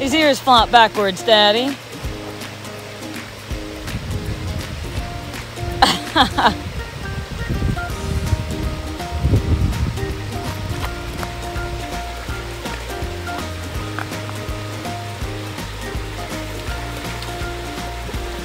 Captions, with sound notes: His ear is flopped backwards, Daddy. [ laughter ]